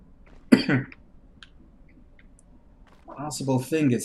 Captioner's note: chuckles; coughs